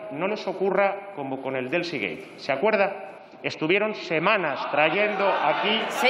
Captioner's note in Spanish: Risas.-Protestas